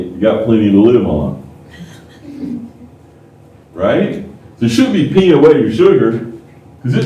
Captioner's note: laughter